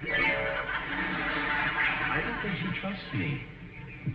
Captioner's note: audience laughing